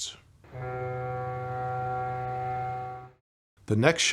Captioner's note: boat horn sounds